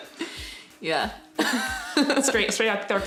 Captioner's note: laughs